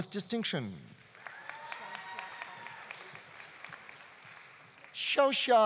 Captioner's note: audience applauding; audience cheering